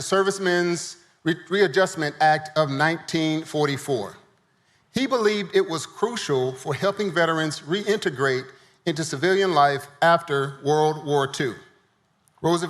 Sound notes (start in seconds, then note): none